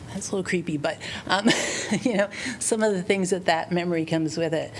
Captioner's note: laughter